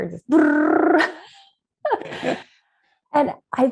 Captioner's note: laughs